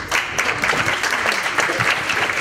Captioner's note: applause